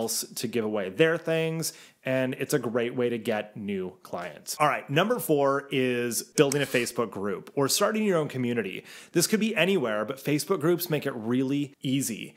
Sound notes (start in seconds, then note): 6.4 mouse clicking